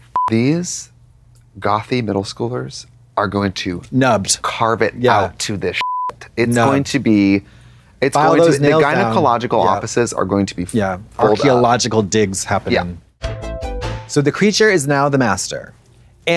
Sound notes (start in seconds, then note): 5.8 beep; 13.2 synth bop